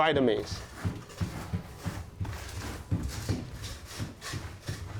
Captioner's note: grinding grain